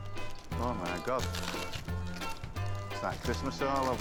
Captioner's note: paper tearing